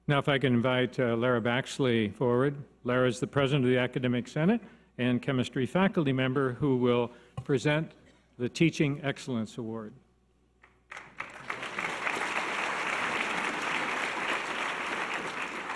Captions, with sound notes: - Now if I can invite Lara Baxley forward. Lara is the president of the academic senate and chemistry faculty member who will present the Teaching Excellence Award. (audience applause)